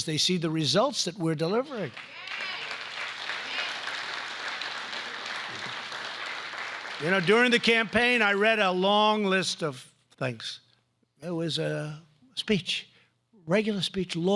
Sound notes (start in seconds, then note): 1.8 applause